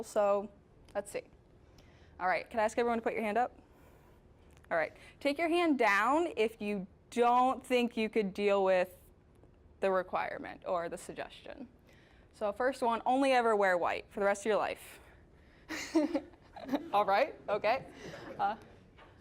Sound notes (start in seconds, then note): 16.5 laughing